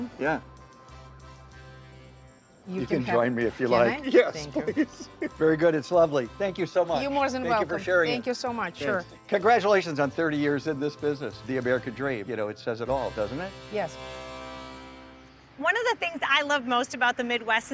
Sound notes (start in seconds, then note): 3.8 laughs